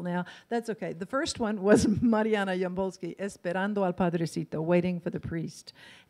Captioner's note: in foreign language